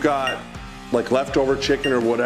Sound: bell dinging

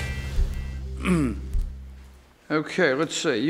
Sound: clear throat

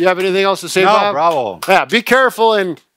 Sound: clapping

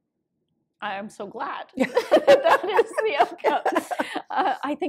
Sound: laughter

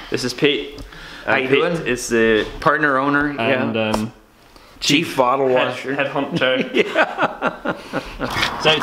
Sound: laughs

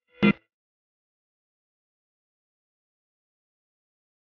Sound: silence continuing

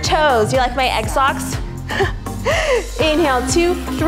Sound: chuckles

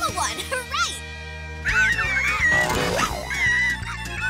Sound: squeaking

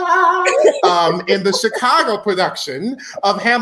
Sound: laughs

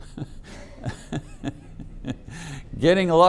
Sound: laughing

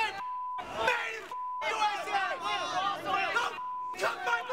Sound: beep

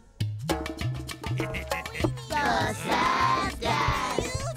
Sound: chuckling

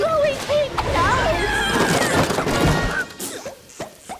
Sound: splattering; skunk screaming; sniffing

